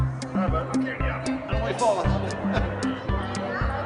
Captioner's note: chuckles